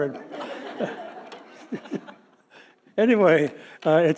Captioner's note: audience laughing; laughing